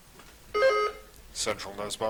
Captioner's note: buzzer chiming